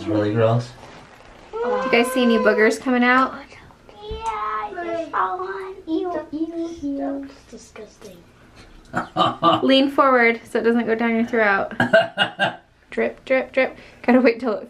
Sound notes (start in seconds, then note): 8.9 laughs; 11.8 coughing